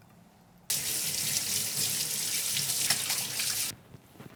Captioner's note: splashing